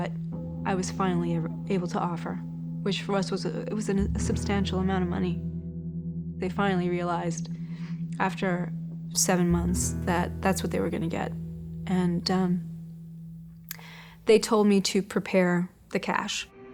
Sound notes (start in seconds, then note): 2.5 stammers